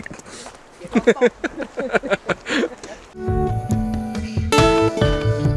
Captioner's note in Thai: เสียงหัวเราะ